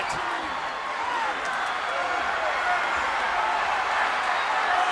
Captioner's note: audience cheering